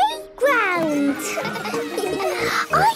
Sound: children laughing

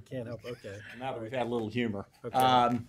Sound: laughter

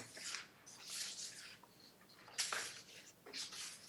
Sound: paper shuffling

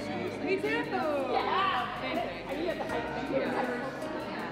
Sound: women talking

